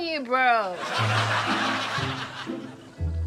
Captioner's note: laughter